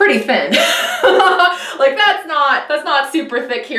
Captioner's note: laughing